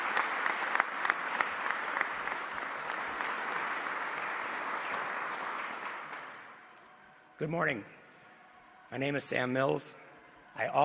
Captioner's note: applause